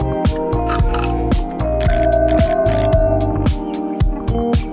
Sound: plastic clicking; bell ringing; birds chirping

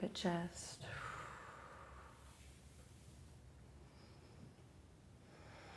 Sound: slowly inhales and exhales

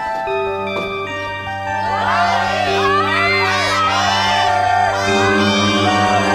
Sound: crowd clamoring

